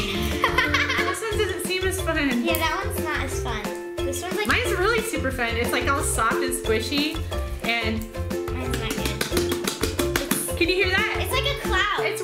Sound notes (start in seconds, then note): 0.0 laughs; 8.6 soft slapping